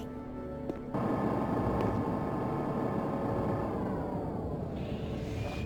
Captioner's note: thunder rumbling